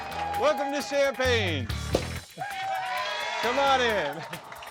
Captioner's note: guests clapping; cork pops